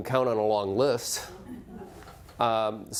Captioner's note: laughing